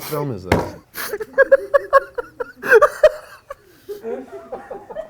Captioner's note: laughing continues